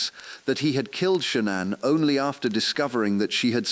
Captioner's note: exhale